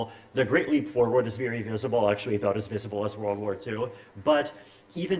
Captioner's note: none